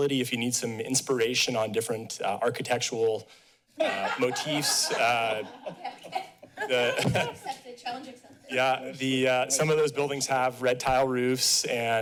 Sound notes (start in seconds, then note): 3.8 laughter